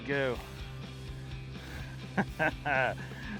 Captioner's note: chuckling